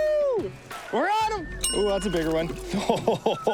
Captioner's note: text dings; laughs